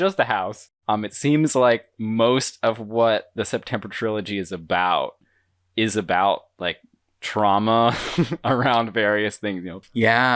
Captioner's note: laughs